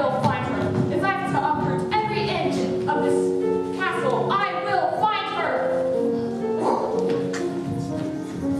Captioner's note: huffs